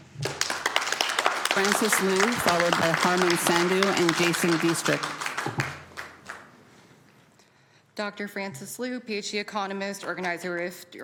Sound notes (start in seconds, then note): 4.8 applause